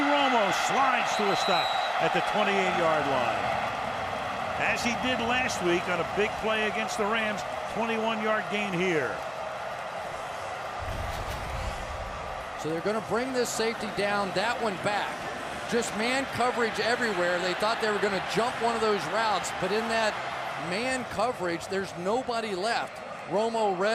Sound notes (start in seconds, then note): 9.7 cheering